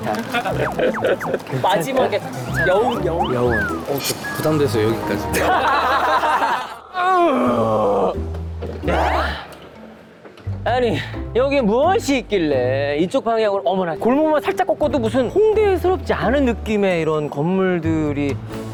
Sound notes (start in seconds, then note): 7.0 groaning